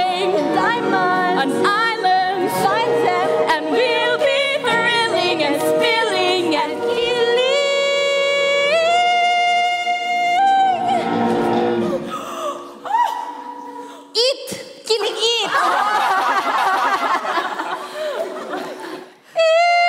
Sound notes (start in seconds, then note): 11.8 gasps; 15.5 everyone laughs